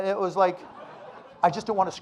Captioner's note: audience laughing